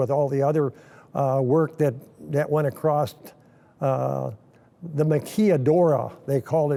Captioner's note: speaking in foreign language